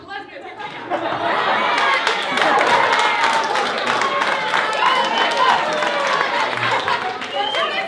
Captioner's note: cheering